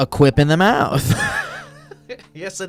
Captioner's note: laughs